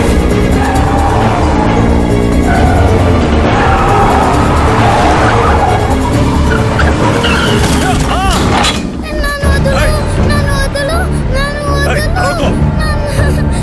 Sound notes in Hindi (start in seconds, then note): 4.2 टायर की आवाज